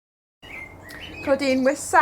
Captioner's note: birds chirping